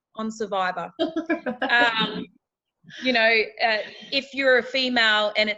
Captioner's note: laughing